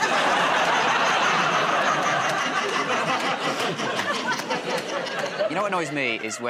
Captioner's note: laughter